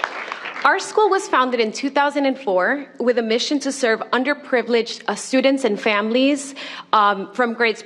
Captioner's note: applause